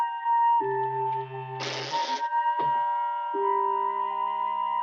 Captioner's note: door creaking